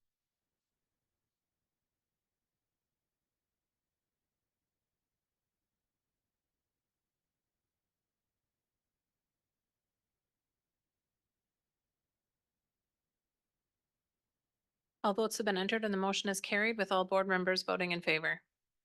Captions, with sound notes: (silence) (silence) All votes have been entered, and the motion is carried with all board members voting in favor.